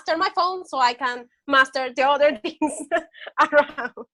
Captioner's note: laughs